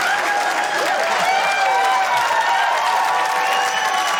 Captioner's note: cheering